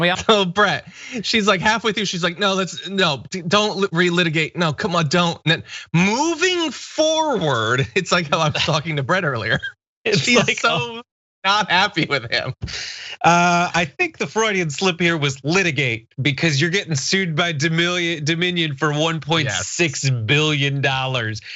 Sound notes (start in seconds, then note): 0.7 laugh; 10.1 laugh